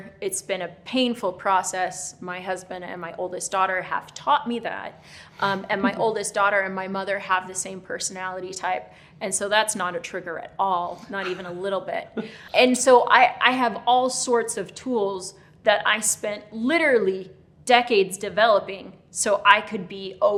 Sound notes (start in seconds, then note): 11.0 laughing